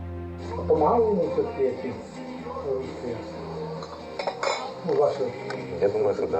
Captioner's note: speaking foreign language